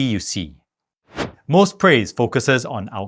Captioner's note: air whooshing